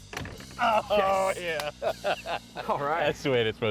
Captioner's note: laughs